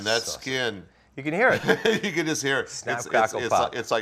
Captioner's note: laughing